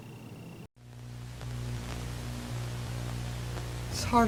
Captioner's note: static continues